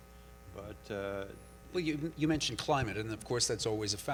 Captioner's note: voiceover